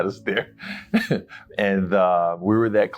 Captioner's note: laughing